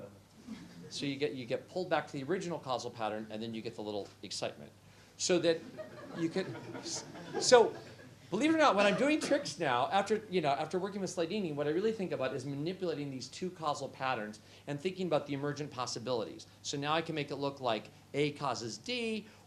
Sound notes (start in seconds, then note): 5.6 laughter